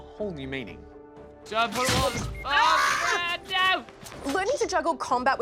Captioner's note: splutters